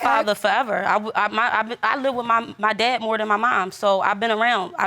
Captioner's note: stammers